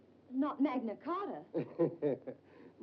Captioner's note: Dr. Manetta laughs